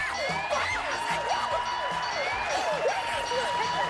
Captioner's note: screaming; alarm blaring